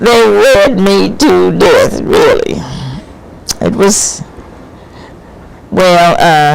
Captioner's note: laughs